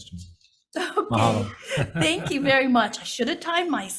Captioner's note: laughs